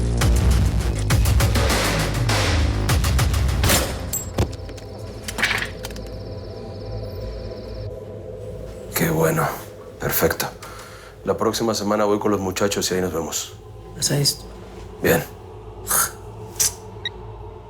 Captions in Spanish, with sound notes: [Disparo] ¡QUÉ BUENO! PERFECTO. LA PRÓXIMA SEMANA VOY CON LOS MUCHACHOS Y AHÍ NOS VEMOS. BIEN.